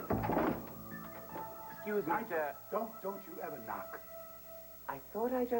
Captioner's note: knock on door